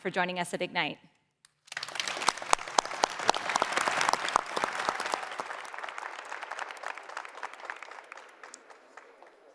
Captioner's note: applause